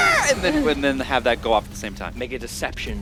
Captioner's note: bat squealing Noises?